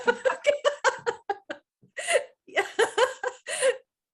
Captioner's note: laughing